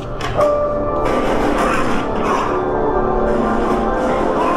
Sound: shoes squeaking; gun firing

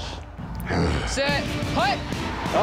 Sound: growls

